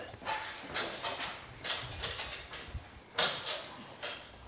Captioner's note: tools clatter in the background